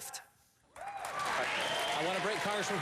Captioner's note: applause